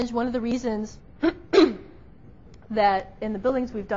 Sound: clears throat

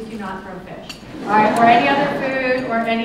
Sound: laughter

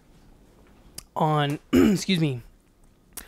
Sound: clears throat

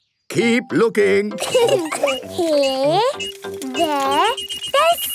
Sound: laughter; beeping

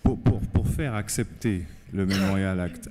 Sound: speaking french

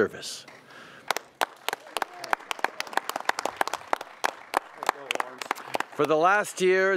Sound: applause

